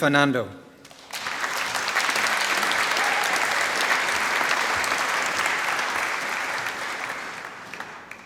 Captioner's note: applause